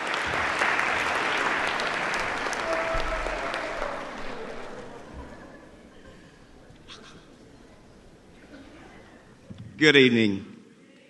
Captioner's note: applause